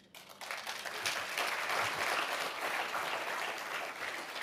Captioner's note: audience applauding